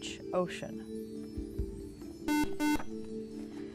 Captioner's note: beep